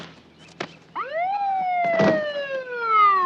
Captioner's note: siren